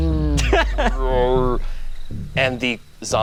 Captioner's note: laughs